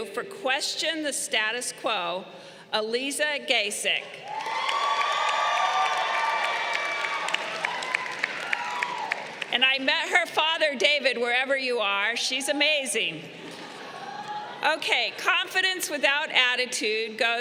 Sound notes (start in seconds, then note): 4.2 crowd cheering